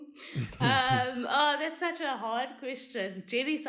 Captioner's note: laugh